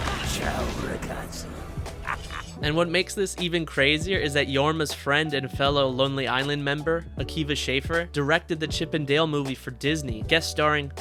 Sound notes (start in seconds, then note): 1.9 laughs